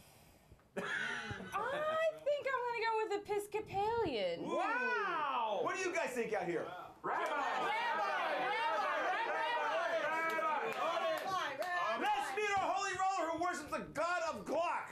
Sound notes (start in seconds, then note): 11.8 audience shouts answers